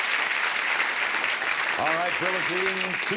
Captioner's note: audience applause